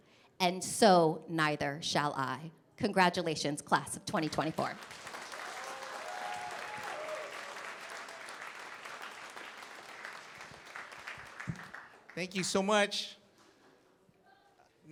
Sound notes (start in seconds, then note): 4.7 cheering, applause